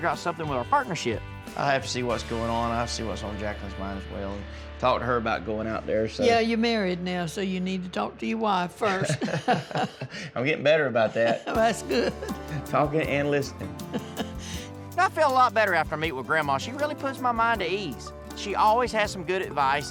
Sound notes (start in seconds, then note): 8.8 both chuckling